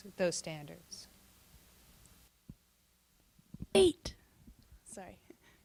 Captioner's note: silence